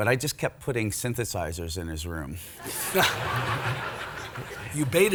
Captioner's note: audience laughs